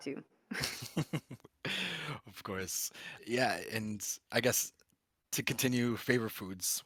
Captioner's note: laughs